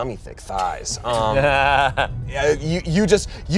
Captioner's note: all laugh